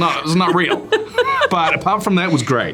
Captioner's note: Priyanka laughing